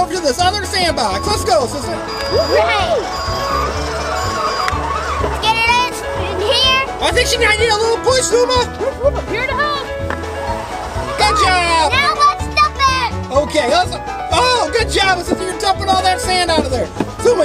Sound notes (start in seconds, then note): 3.0 toy excavator moving